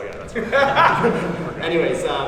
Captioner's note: laughs